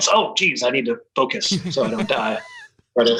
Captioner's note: laughs